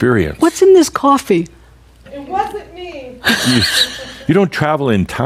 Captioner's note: chuckle